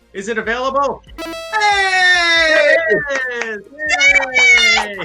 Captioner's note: shouts and cheers